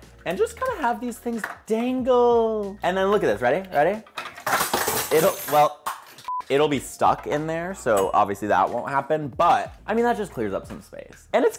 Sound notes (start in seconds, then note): 3.6 objects clattering